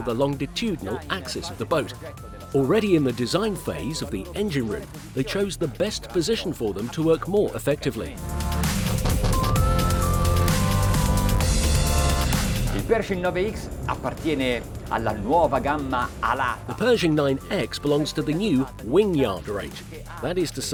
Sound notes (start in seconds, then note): 13.2 speaking in Italian